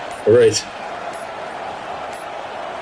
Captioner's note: crowd Noises